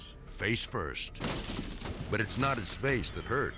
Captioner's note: bike crumbling